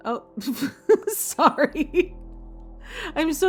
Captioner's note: laughing